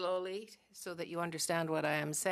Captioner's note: speaking French